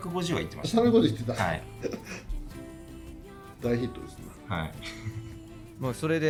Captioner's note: laughs